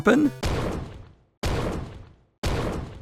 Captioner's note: pounding sound